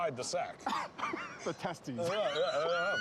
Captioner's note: laughing